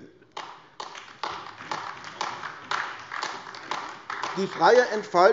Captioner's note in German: Beifall AfD